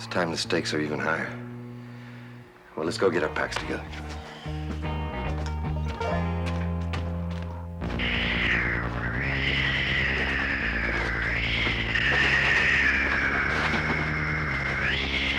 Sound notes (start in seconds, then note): 7.3 dramatic synth music; 9.0 Sleestack hissing